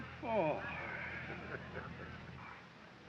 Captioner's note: kat laughing